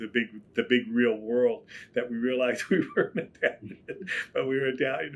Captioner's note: laughs